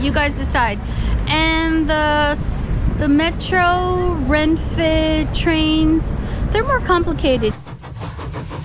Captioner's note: train sound